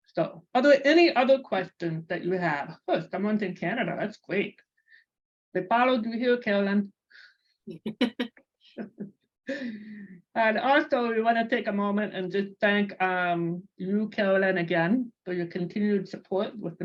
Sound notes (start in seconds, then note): 8.8 both laughing